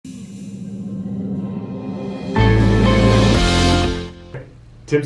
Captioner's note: suspenseful sound effect